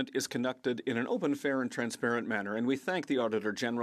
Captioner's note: speaking French